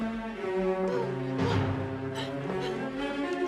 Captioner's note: Terengah-engah